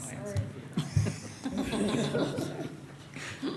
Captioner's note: laughter